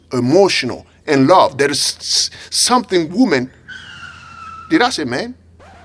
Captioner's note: car squeaking break